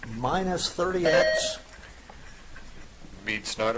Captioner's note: buzzer chiming